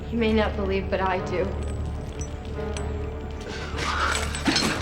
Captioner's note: clattering